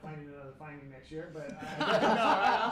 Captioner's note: laughter